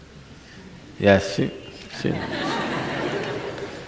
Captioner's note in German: Gelächter